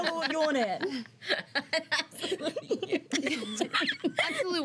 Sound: laughs

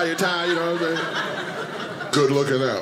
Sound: audience laughing

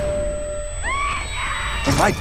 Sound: ding; screaming

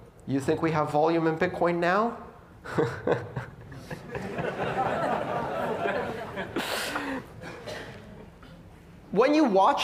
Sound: laughter

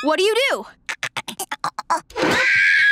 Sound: chittering; screaming

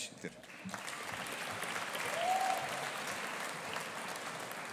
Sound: audience applauding

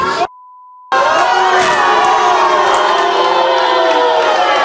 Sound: audience boos

